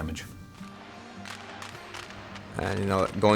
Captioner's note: crowd clapping